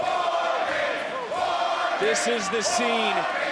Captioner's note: crowd cheering